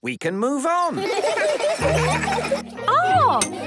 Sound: laughter

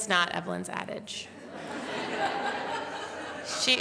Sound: laughter

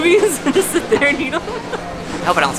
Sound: laughs

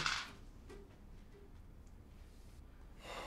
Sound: ring clatters to floor

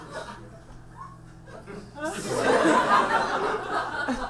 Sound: audience laughs

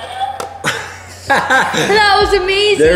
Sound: laughs

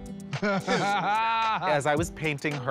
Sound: laughter

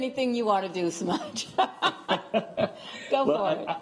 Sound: laughter

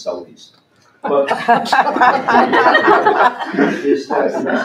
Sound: laughter

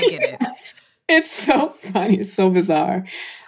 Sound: laughs

